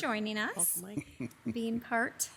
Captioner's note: laughs